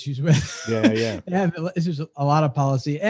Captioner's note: laughs